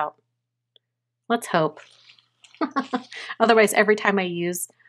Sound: chuckles

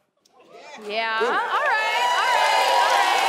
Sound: audience cheering

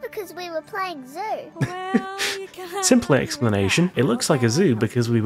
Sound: laughter

